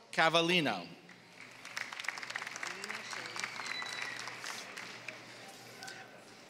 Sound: applause

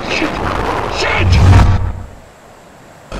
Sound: woosh

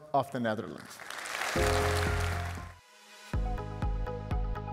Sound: audience applauding; bright upbeat music

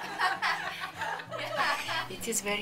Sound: laughter

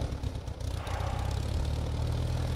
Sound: exhales deeply

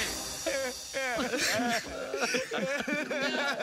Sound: sobbing

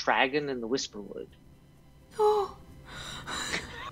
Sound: sounding distressed

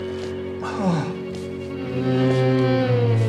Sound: groans

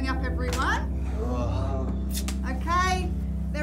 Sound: students groaning

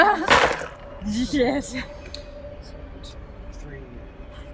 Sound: dice clatter

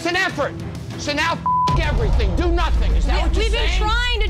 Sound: beep

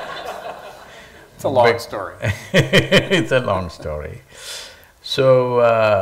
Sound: laughter; Sadhguru laughs

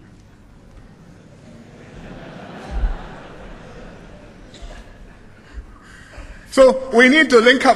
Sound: laughter

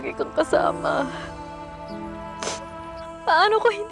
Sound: sighs

